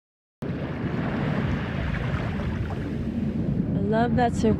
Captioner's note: faint sounds of soft waves